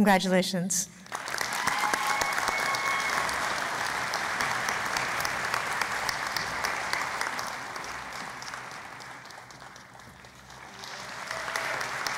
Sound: cheering and Applause

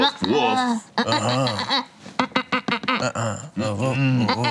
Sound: grunts negatively

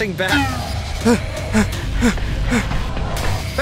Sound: tense music playing; panting

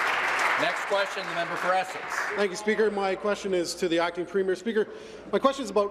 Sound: applause

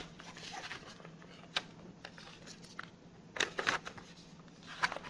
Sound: flipping pages

